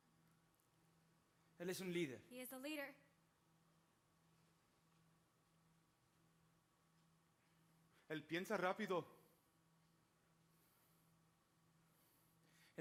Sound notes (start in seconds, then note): 1.6 speaking Spanish; 8.2 speaking Spanish